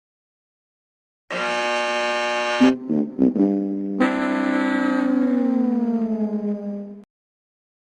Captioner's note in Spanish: zumbador, luego pierde cuernos de las obras de teatro "The Price is Right"